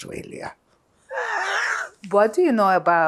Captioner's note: laughing